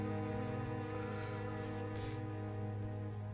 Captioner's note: sniffles